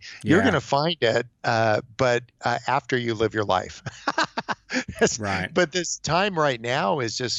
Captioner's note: laughs